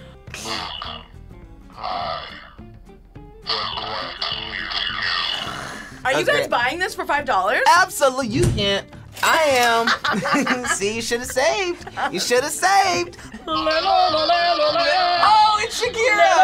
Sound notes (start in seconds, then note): 5.1 laughs; 9.7 both laugh